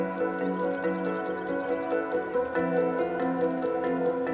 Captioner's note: birds tweet